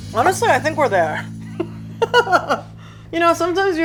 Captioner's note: laughs